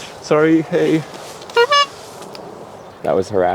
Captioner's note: honks horn